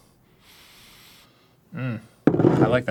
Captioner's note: 21+ sniff